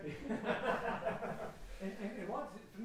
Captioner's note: laughing